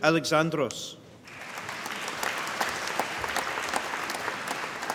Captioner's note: applause